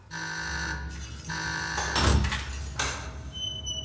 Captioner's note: buzzer sounding